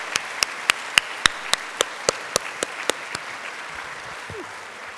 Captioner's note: applause